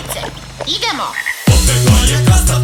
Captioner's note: croak!